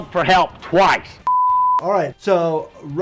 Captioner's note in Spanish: pitidos de transmisión